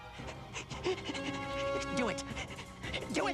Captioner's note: panting excitedly